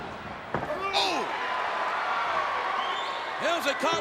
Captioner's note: crowd cheering